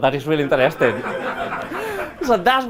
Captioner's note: laughter